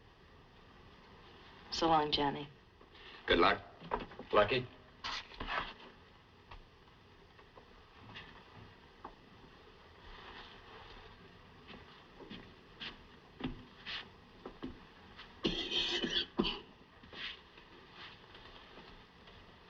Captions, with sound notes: So long, Johnny. Good luck, Lucky. [ Coughs ]